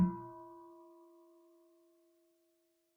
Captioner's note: half bell